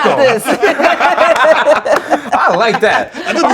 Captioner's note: laughter